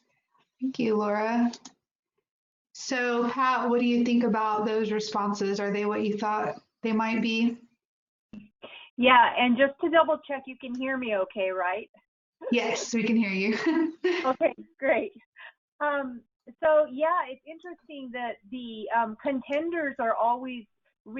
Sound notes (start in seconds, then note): 14.0 laughs